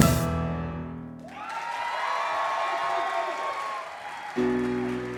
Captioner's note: audience applause